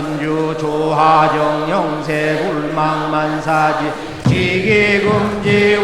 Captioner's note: applause